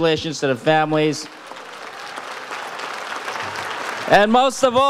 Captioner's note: audience applauds